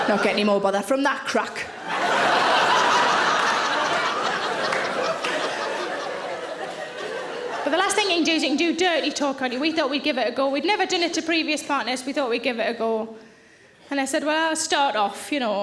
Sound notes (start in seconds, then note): 1.7 audience laughing